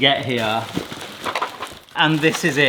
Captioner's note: plastic rustles